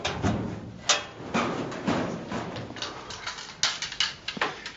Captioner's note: slamming